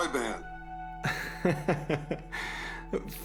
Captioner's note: Larry chuckles